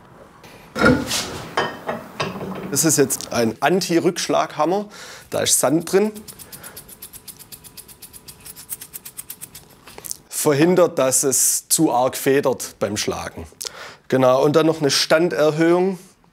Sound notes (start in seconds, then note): 6.1 soft rattle